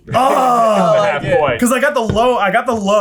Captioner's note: groaning